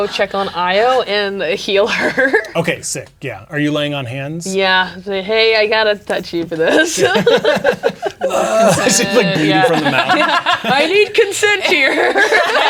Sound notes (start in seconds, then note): 6.6 laughing; 9.9 players laughing